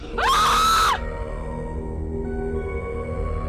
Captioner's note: Carol screams